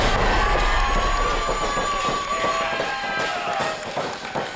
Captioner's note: cheering